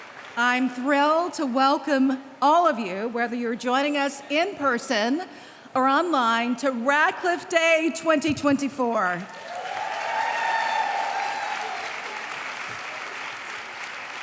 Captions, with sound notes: I'm thrilled to welcome all of you-- whether you're joining us in-person or online-- to Radcliffe Day 2024. [applause]